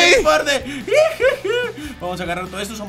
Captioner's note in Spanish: Emocionado